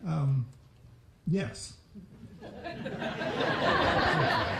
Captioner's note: laughter